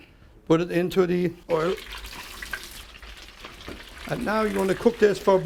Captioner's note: sizzling